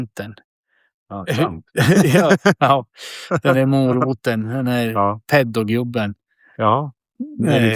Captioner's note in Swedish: skratt